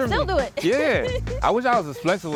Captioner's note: laughs